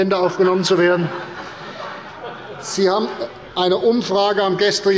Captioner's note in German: Heiterkeit bei der CDU und dem BÜNDNIS 90/DIE GRÜNEN